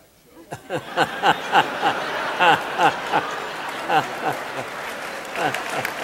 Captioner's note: audience laughing and applauding